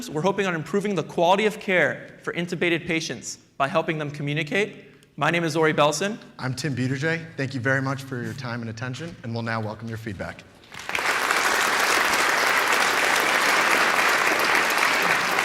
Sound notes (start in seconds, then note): 10.6 applause